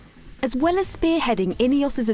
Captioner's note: voiceover